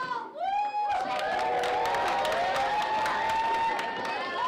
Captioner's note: everyone cheering